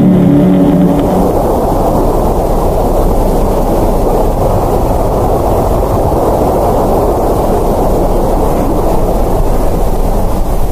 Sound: loud Rumbling

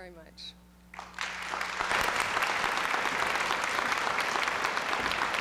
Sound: applause

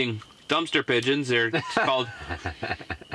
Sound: laughing

